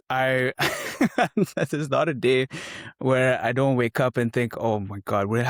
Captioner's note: laugh